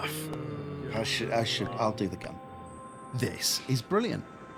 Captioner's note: cough